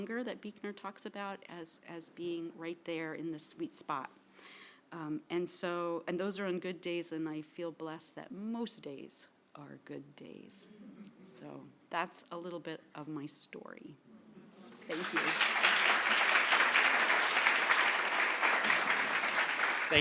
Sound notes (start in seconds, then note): 14.8 audience applauding